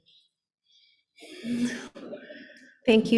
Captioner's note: laughs